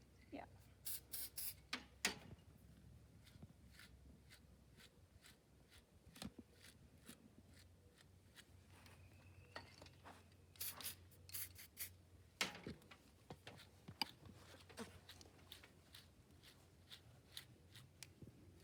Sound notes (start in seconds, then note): 0.8 spray noises; 3.6 brush noises; 10.6 spray noises; 13.4 brush noises